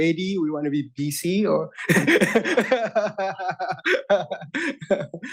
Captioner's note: chuckles